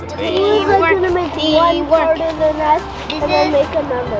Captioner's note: general chatter